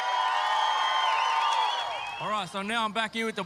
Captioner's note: cheering, applause